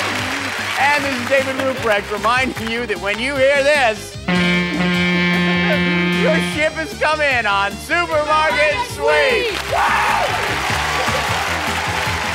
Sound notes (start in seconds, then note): 4.2 honk sound